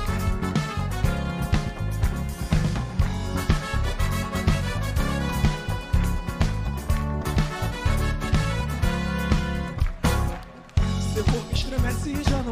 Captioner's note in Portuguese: aplausos